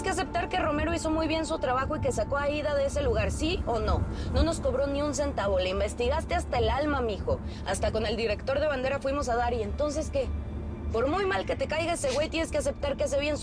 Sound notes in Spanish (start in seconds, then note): none